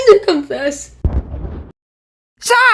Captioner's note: bang